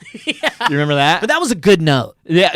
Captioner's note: laughing